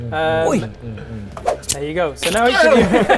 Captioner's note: krrch; whoosh